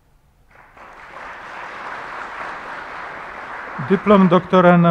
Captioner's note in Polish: oklaski